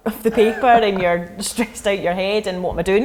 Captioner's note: laughing